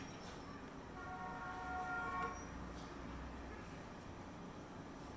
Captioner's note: distant horn honks